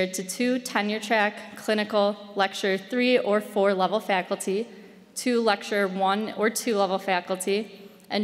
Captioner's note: none